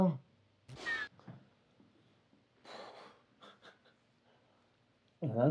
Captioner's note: Kellogg's arm whirs